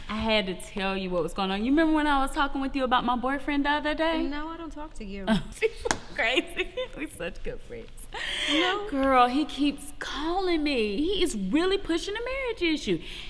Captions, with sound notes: I had to tell you what was goin' on. You remember when I was talkin' to you about my boyfriend the other day? - No, I don't talk to you. - (laughs) She's so crazy, we're such good friends. - No. - Girl, he keeps calling me. He is really pushing the marriage issue.